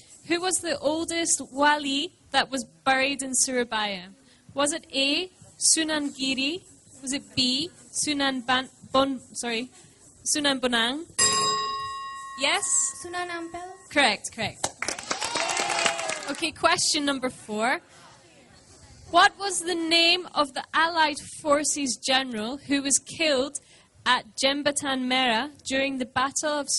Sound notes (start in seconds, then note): 11.2 bell; 14.6 applause